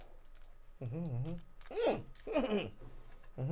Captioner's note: packet shaking; mumbling